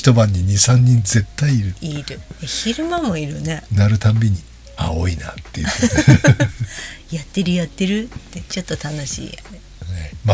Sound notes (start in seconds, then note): 5.6 laughs